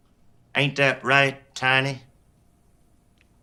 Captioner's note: none